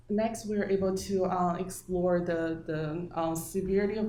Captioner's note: none